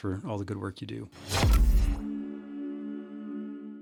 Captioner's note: graphic whooshing